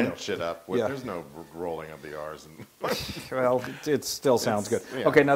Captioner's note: laugh